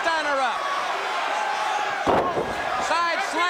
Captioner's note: crowd cheering